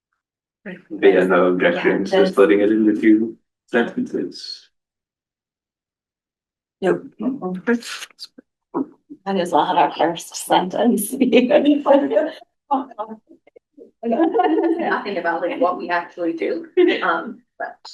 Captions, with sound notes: No objection. Putting it in a few sentences. [LAUGHING] Sing about what we actually do.